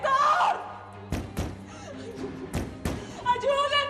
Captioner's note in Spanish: sollozos; golpes